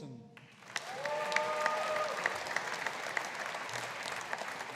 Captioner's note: audience applauding